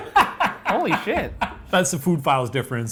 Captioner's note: laughing